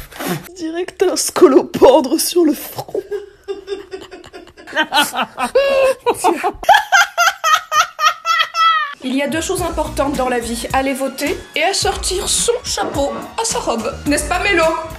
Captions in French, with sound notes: On dirait que t'as un scolopendre sur le front *fou rire* Il y a deux choses importantes dans la vie aller voter, et assortir son chapeau à sa robe n'est ce pas Mélo